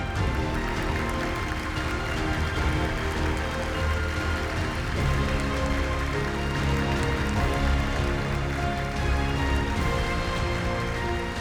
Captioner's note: applause